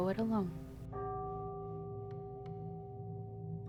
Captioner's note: temple bell